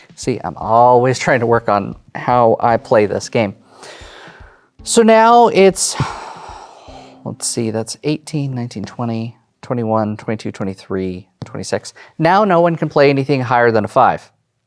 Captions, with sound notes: See, I'm always trying to work on how I play this game. So, now, it's-- (exhales) Let's see, that's 18, 19, 20, (song ends) 21, 22, 23, 26. (taps table while counting) Now, no one can play anything higher than a 5.